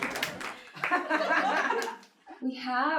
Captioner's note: audience applauding; audience laughs